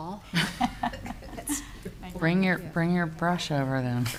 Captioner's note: speakers laughing